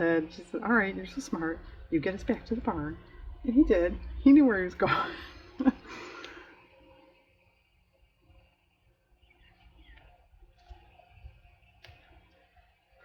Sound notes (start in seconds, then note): 8.3 laughs